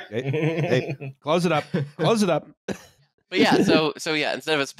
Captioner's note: laughs